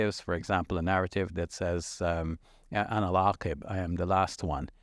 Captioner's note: speaking in Arabic